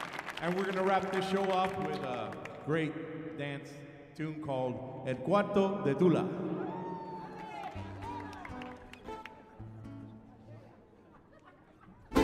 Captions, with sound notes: And we're gonna wrap this show up with a great dance tune called "El Cuarto de Tula." (audience applauding)